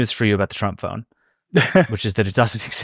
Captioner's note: chuckles